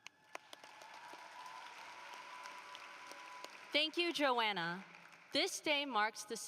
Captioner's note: applause